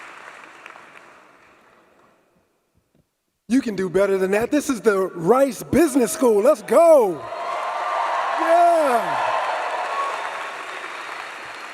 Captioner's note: applause